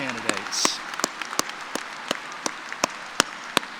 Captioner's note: applause